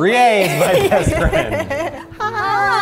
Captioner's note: all laughing